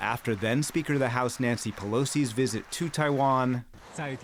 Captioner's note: applause